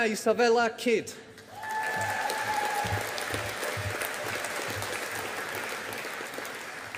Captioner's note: audience applauding